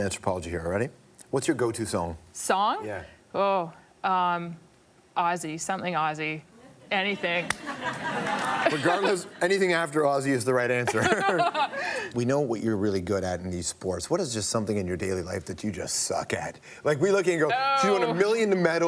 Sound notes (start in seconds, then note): 7.5 laughter; 10.8 both laugh